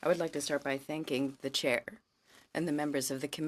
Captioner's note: speaking in french